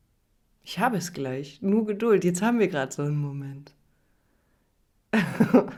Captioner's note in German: gelächter